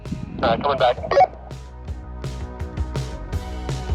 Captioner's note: walkie talkie indicator blip